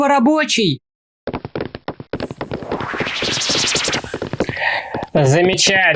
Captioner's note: rustle of teleportation; steps